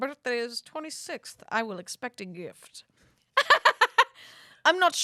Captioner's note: laughs